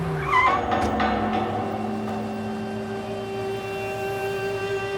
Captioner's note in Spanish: Frenazo